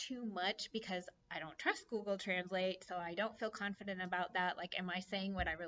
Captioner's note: conversation